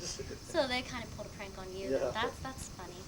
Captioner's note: chuckles